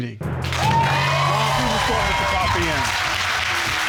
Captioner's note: loud applause